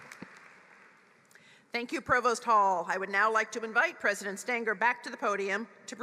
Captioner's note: applause